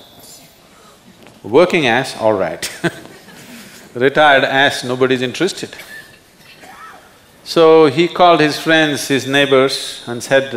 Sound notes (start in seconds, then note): 2.6 laughs